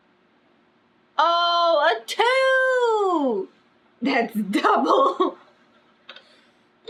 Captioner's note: laughs